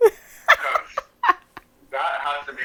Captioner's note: laughter